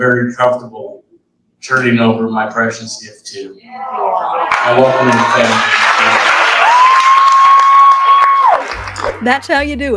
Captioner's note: audience cheers and applauds